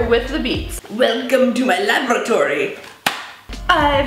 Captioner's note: rubber snaps